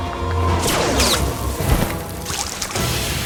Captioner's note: electric blast; water drips; water splashes and sizzles; wind whistles